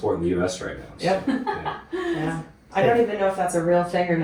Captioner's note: laughs